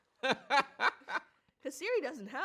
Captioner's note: laughs